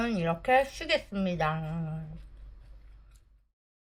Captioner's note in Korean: 오물오물